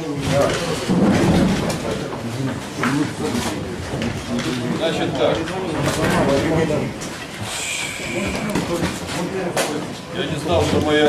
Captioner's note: sighs deeply